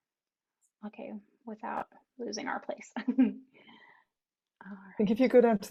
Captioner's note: chuckling